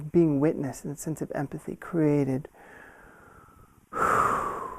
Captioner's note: exhales